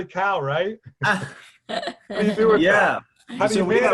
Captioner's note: laughing